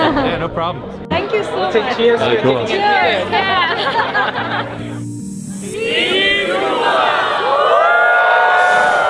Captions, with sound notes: - Yeah no problem! - Thank you so much! - Let's say cheers for getting admitted. - Yeah, cheers! (Laughter) (Group shouts) Team Fuqua! Whooo!